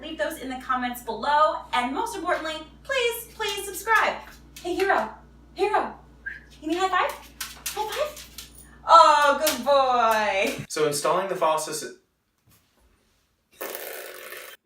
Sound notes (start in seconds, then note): 6.2 whistles; 13.7 someone drills